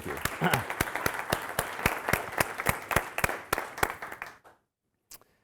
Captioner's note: audience applauding